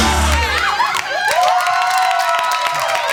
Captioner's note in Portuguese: Gritos